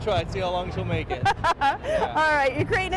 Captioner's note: laughs